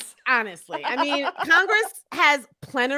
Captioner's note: laughing